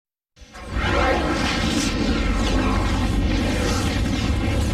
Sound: dramatic twister and helicopter sounds

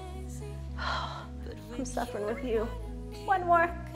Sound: exhales

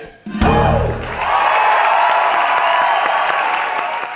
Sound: audience cheering

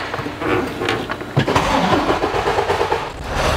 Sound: engine revving; engine running

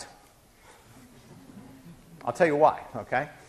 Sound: laughing

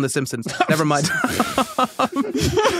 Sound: laugh; crack up

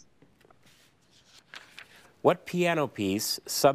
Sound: paper crinkling

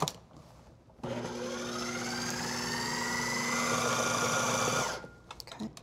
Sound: whirring

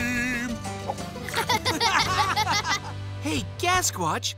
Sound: laughing

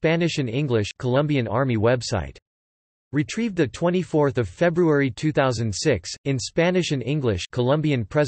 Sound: in Spanish and English; in Spanish and English

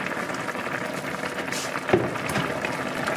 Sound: swishy swashy boil boil

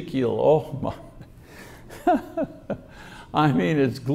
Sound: chuckles

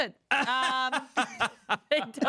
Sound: everyone laughs

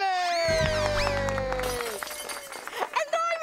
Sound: applause; glass smashing

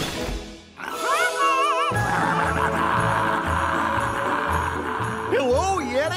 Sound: yodeling, roaring

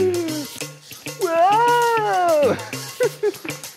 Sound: whoa Sound; woo Sound; laughing

